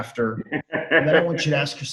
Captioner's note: laughs